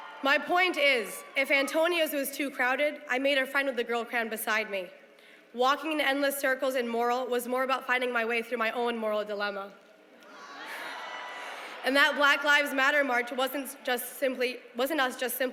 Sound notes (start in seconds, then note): 10.2 cheering